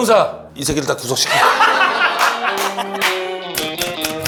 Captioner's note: ah ha ha ha ha